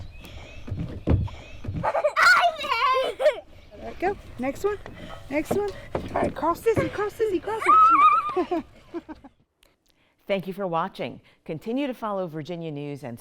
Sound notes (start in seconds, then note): 0.0 feet thumping; 0.3 children laughing; 7.4 children laughing and screaming